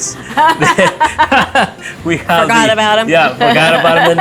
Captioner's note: both laugh